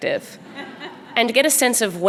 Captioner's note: audience laughing